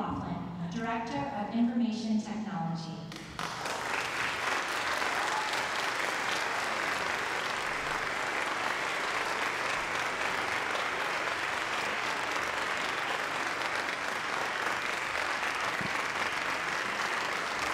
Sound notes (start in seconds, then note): 4.9 applause